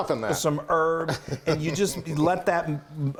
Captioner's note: chuckles